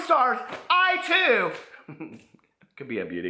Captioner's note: chuckles